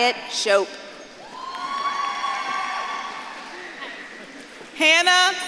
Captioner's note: audience claps and cheers